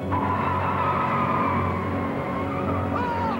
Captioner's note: tires screech